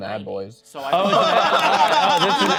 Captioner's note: laughing